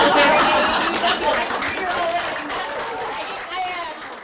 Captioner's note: laughter; applause